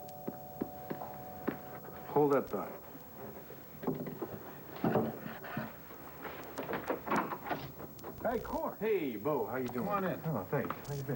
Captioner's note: doorbell rings